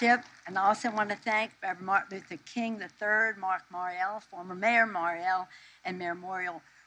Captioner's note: applause